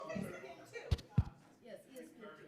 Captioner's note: people chattering